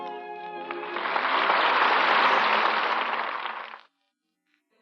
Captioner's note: applause